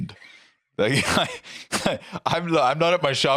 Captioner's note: laughs